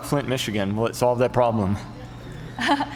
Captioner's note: laughs